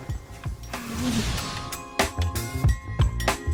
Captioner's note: swoosh